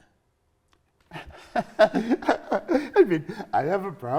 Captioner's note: laughing